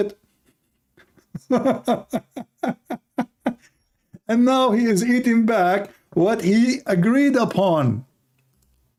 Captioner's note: Ketawa